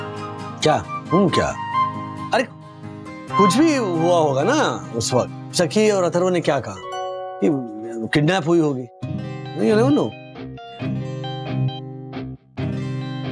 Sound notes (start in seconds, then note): none